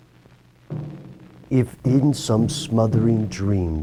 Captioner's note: voiceover